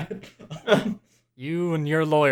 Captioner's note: laughter